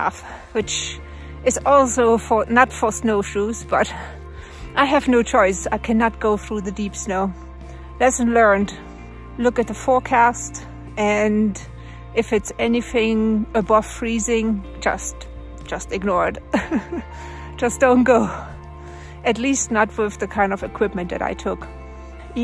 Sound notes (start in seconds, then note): 16.5 laughs